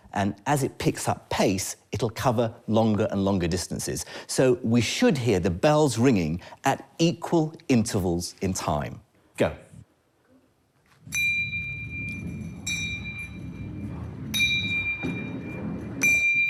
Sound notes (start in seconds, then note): 11.0 bell rings